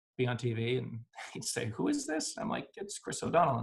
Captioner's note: laughs